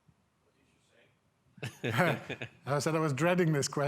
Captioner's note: chuckling softly; speaking faintly